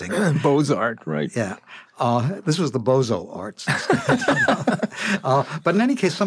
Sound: laughter

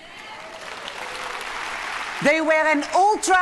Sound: audience cheering and applauding

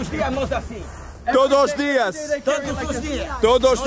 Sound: speaking Portuguese

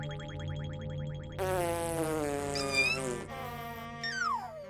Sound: farting

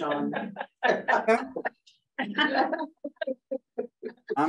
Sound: laughing

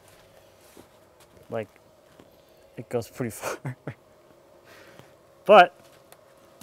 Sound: laughs

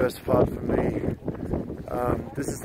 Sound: wind whipping

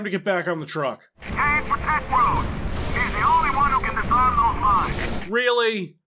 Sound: BIDWELL over the radio

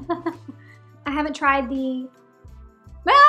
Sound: woman giggling; yelling

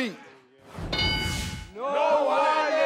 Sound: buzzer dings

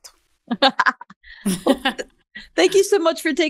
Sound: both laugh

